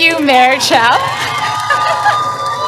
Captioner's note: applause